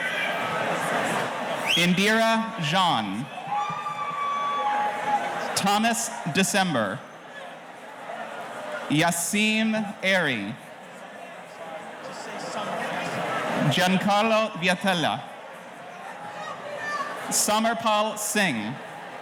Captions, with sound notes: Indira Zhan. Thomas December. Yasim Eri. - Just say (murmurs) - Giancarlo Vietela. Summer Paul singh.